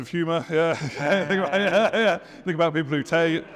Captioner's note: laughs